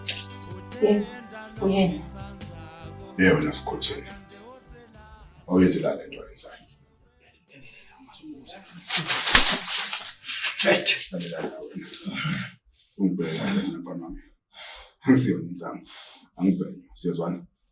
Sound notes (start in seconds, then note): 7.9 mumbling; 8.8 hot slap